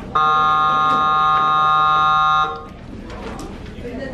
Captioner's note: intercom buzzing